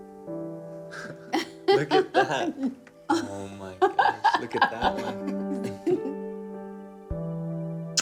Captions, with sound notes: (laughing) - Look at that. Oh my goodness, look at that one.